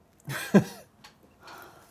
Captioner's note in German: lacht